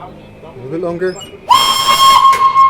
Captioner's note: whistle